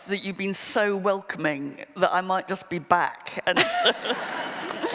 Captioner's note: laughter